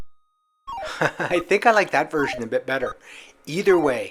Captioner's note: laughs